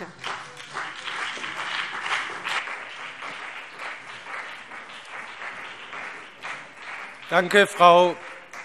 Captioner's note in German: Beifall CDU und BÜNDNIS 90/DIE GRÜNEN